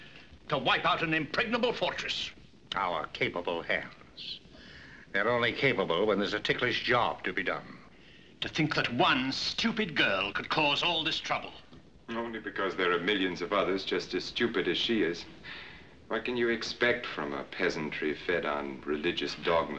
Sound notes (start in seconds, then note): none